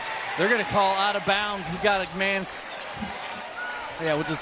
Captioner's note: applause